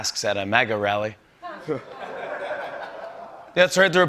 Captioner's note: laughter